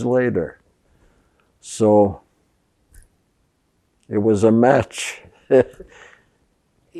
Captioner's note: laughing